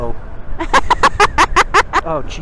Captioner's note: laughing